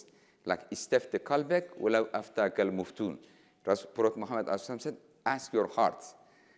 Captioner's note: speaking in foreign language